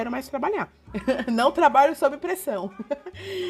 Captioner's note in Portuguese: Risos